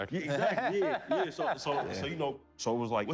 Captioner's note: laughter